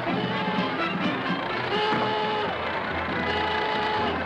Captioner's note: horn honking